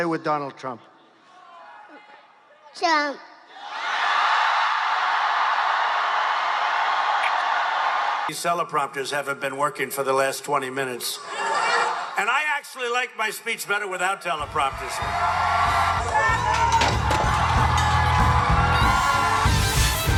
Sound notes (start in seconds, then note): 3.5 cheering; 11.3 laughing; 14.4 cheering; 17.6 rock music